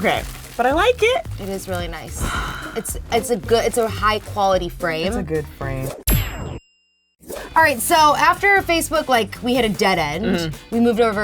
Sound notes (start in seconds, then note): 2.2 exhales; 6.1 ping